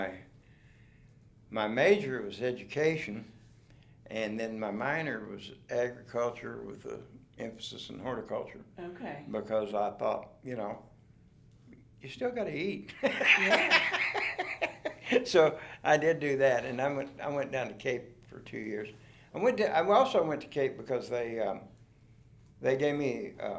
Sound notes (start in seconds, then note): 13.0 laughs